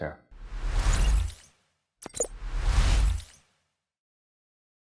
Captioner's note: logo whooshing